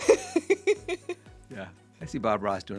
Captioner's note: laughing